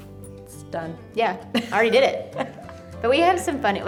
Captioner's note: laughs